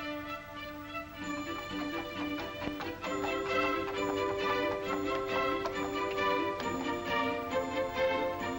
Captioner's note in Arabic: موسيقى مبهجة; حوافر الخيول تركض بهدوء; موسيقى مبهجة